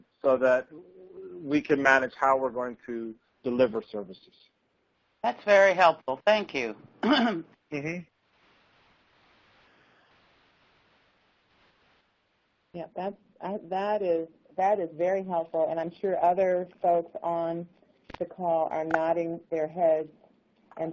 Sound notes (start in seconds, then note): 7.0 clears throat